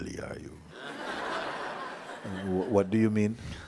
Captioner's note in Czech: Posluchači se smějí